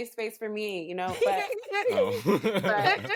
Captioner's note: laughter